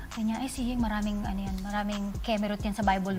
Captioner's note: none